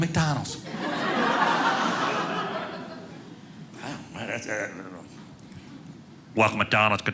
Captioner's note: audience laughing